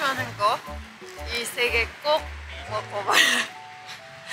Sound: laughing

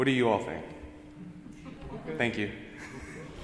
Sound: audience chuckling

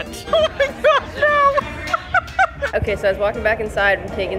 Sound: laughs

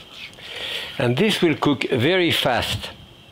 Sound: none

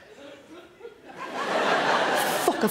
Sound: audience laughs

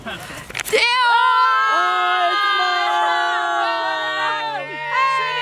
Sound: exclaim

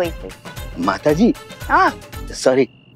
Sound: scoffs

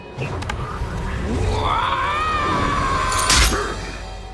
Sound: grunting

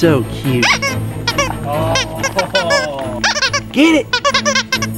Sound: toy squeaking

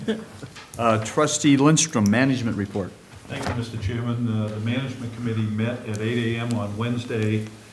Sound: laughter

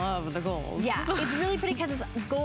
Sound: laughter

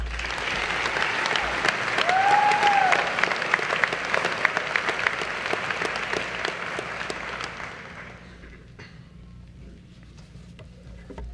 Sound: applause

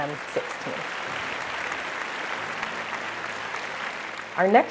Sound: applause

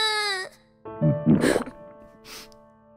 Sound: gulp

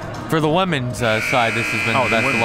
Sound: buzzer

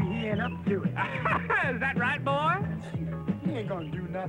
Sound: laughs

